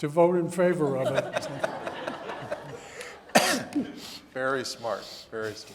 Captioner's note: audience laughing